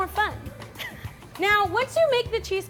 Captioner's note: laughing